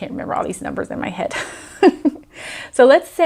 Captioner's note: chuckles